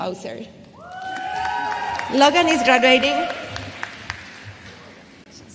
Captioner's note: applause